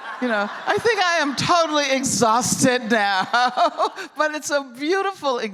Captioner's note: laughter; laughing